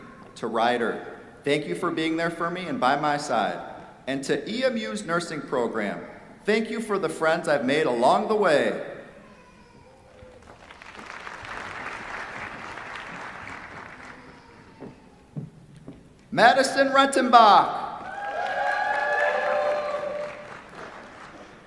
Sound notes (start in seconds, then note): 10.4 applause; 18.0 cheers, applause